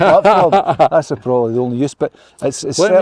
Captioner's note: laughter